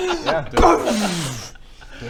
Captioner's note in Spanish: ¡¡¡booooom!!!!